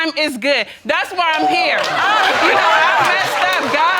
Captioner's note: audience laughing